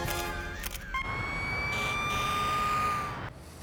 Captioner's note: siren wailing